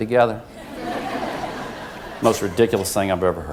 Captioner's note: laugh